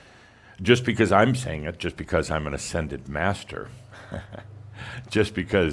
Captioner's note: Adamus chuckles